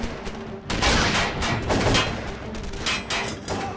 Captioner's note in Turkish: Silah sesleri